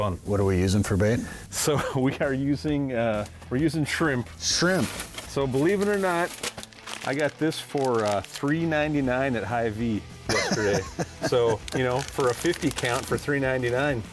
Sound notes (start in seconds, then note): 1.6 laughs; 10.3 laughs